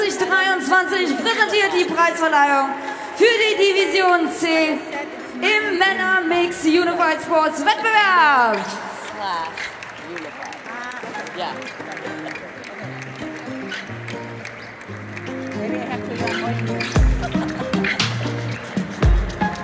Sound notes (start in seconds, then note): 8.9 applause; 8.9 ♫ Midtempo guitar music ♫